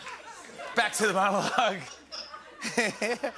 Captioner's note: laughter